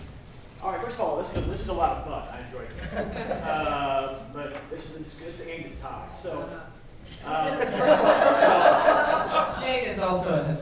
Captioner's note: laughter